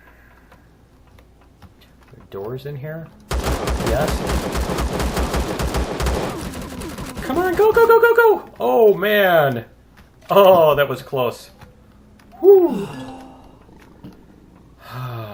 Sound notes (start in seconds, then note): 3.3 pistol firing; 6.5 alien gunfire; 12.3 aliens growling